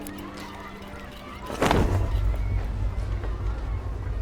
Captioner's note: thud